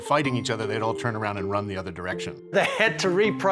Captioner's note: laughing